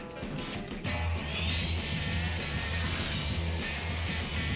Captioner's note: grinding